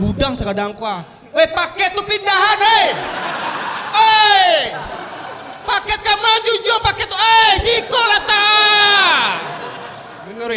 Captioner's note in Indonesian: teriak